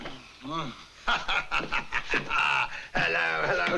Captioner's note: laughs